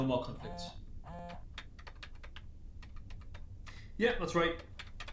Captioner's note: phone buzzing